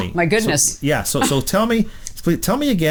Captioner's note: laughs